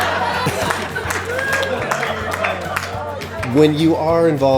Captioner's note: crowd laughing